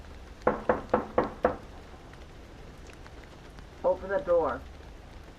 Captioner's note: knocking door